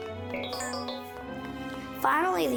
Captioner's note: robot beeping